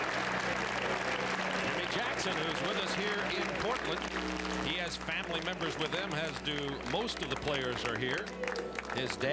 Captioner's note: applause